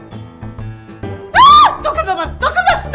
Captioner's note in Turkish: Çığlık